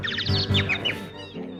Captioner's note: birds tweeting